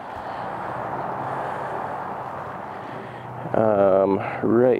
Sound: vehicles whooshing

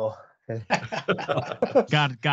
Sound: laughter

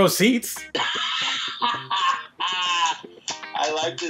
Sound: laughing

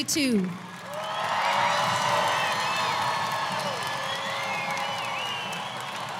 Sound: audience applauding; audience cheering

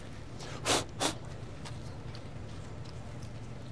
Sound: blowing

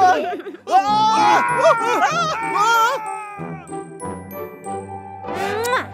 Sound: invincible united fans scream

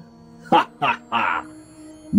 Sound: evil laugh

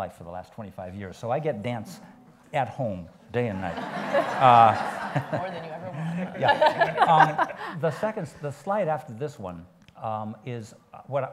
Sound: laughs

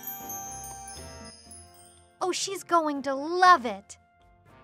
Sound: none

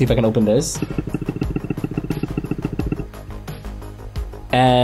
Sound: trackpad thumping

